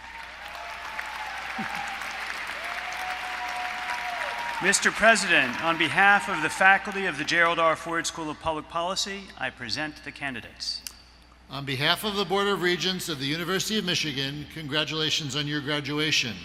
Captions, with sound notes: [Applause] Mr. President, on behalf of the faculty of the Gerald R. Ford School of Public Policy, I present the candidates. >> On behalf of the board of regents of the University of Michigan, congratulations on your graduation!